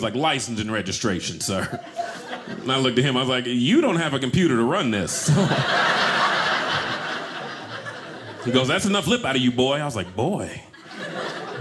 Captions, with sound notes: "License and registration, Sir." And I looked at him. I was like, you don't have a computer to run this. (audience laughing) "He goes, that's enough lip "out of you, boy." I was like, Boy?